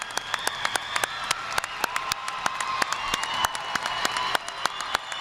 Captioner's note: audience applauding; audience cheering